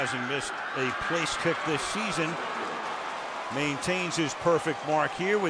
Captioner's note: pa announcement